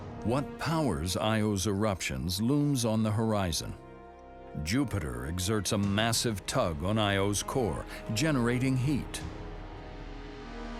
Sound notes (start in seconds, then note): none